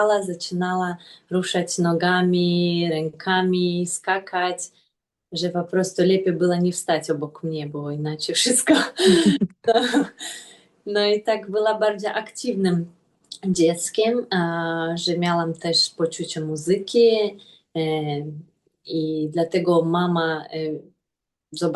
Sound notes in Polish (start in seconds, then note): 8.7 śmiech